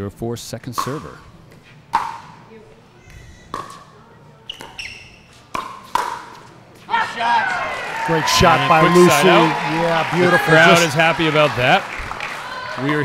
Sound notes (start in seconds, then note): 3.4 ball bouncing; 6.9 audience cheering; 11.8 audience applauding